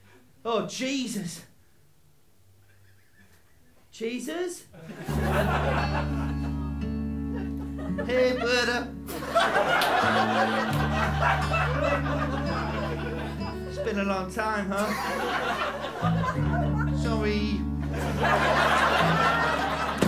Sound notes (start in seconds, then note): 5.0 gentle acoustic guitar; 9.0 laughter; 17.8 laughter